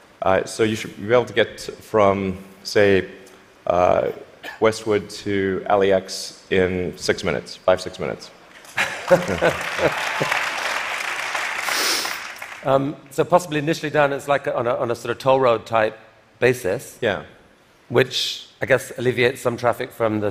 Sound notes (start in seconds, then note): 8.7 applause